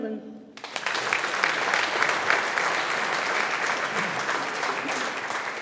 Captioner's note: audience applauding